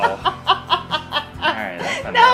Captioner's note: laughing